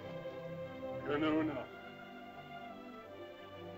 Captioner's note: soft music; Loana's father speaks in caveman language; soft music